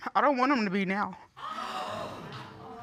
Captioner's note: audience gasping